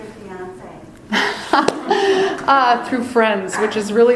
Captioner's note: laughs